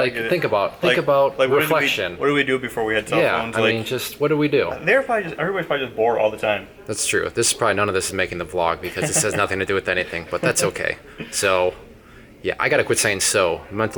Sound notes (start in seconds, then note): 8.9 laughing